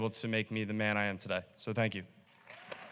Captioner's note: applause